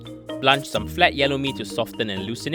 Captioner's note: voiceover